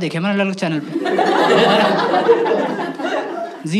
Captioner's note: laughs